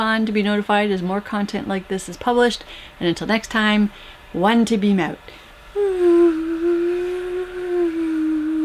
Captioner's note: whoooo